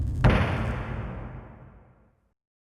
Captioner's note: slamming